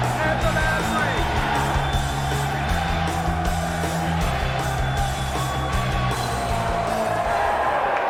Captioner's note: crowd cheering